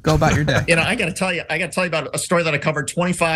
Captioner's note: laugh